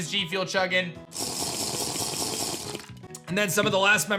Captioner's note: drinking noise